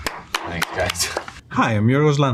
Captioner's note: hands clapping